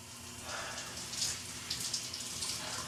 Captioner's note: sighs